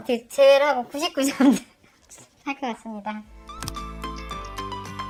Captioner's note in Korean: 웃음